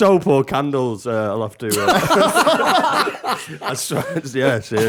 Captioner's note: laughter